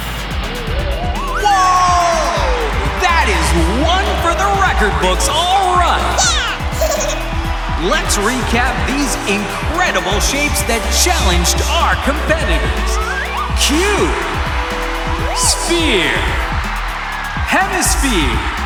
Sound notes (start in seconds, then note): 2.5 cheering; 5.9 giggling